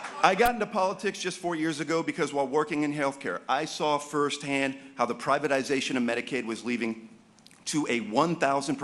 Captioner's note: applause